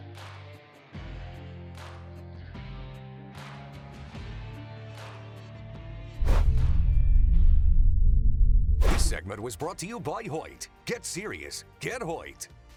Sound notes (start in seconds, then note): 0.2 country rock music; 6.2 logo swoosh